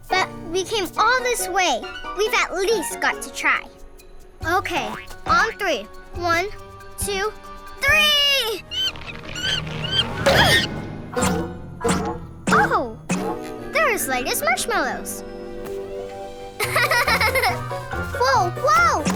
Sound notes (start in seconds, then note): 7.8 monkey squeaking; 10.2 grunts; 11.4 playful twangy music; 16.6 laughing